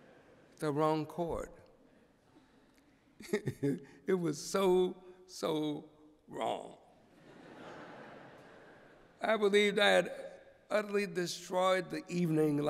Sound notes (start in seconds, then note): 3.2 chuckles; 7.1 laughter